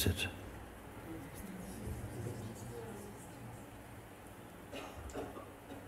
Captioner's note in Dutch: stemmen uit de sangha